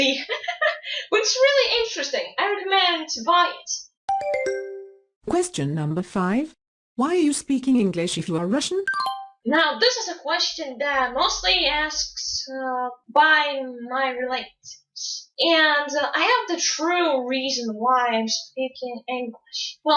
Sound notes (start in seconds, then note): 4.1 question ding